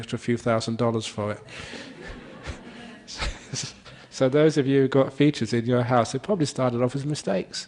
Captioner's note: laughter